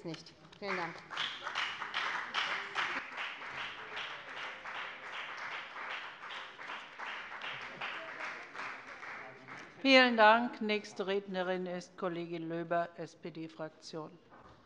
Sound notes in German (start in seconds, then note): 0.5 Beifall bei der FDP